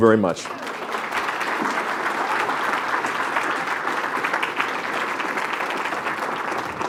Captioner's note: applause